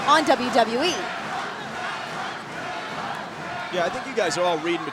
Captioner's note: crowd chanting